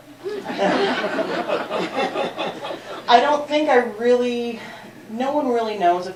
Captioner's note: laughter